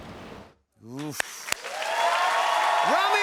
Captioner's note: cheers and applause